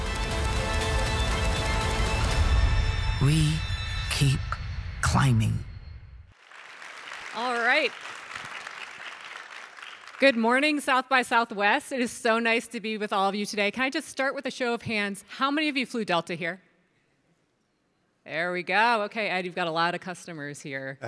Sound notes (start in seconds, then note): 0.0 dramatic music; 6.3 audience applauding